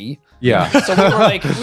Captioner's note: laughing